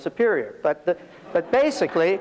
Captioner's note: audience laughs